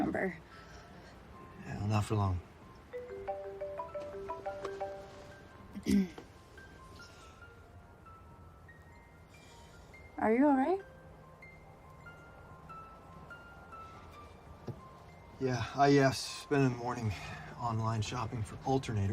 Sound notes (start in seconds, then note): 2.9 phone ringing; 5.8 clearing throat